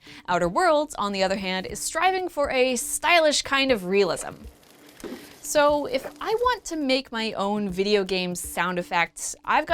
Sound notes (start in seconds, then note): 4.2 fire crackling